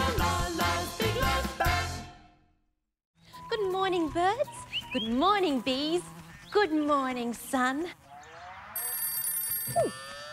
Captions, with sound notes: Good morning, birds. Good morning, bees. Good morning, sun. (TELEPHONE RINGS)